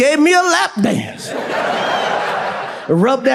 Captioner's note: audience laughs